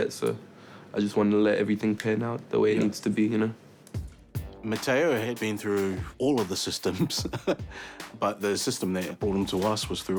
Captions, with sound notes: So I just wanted to let everything pan out the way it needs to be, you know. - Mataio had been through all of the systems (laughs) but the system that brought him to us